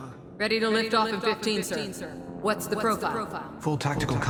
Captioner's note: as an echo from the past